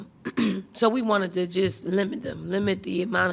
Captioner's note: clearing throat